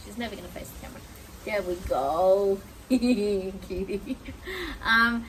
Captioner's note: giggles